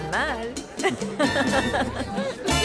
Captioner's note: Ambos ríen